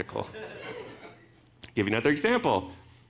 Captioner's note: audience laughing